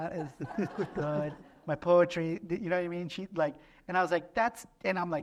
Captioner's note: laughter